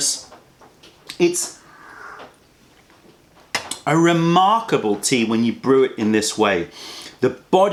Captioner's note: sips tea